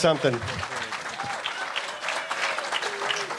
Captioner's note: applause